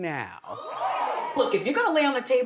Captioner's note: audience cheers